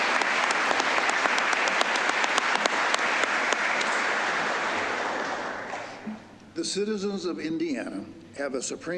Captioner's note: applause